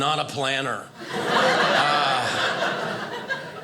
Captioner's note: audience laughing